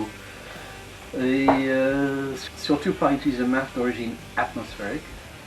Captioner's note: engine